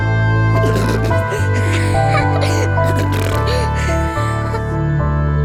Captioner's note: childish laugh